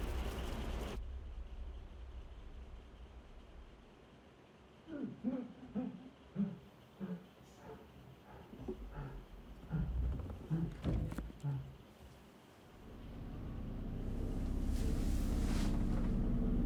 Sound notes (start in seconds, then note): 6.3 heavy breathing